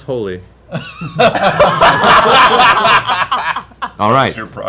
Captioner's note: laughter